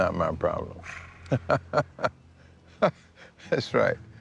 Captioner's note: laughs